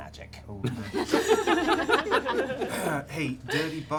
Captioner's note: laughter